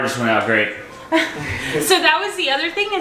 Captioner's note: laugh